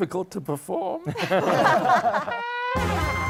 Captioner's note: laughter